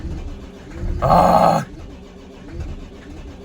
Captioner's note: visceral disappointment sounds